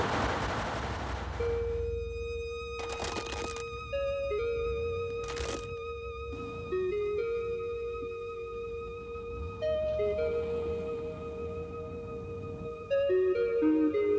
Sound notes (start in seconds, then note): 2.8 toy crunching; 6.8 gentle music; 10.9 car engines revving